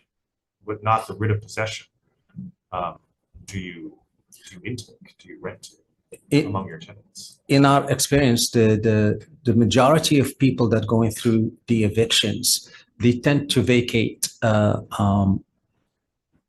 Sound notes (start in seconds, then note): none